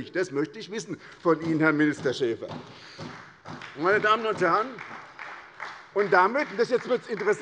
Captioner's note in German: Beifall bei der SPD